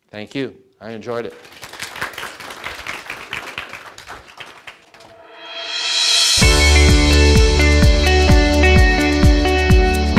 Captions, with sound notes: - Thank you, I enjoyed it. (audience applauds) (energetic music)